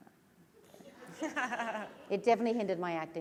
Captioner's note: laughter